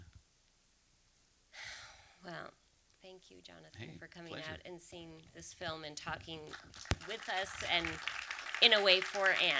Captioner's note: sighs; applause